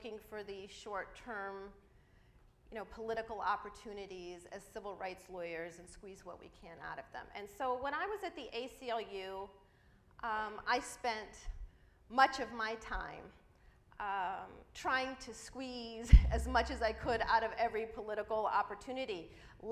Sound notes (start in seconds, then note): none